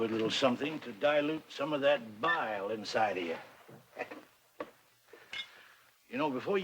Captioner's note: chuckles